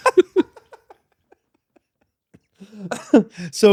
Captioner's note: laughter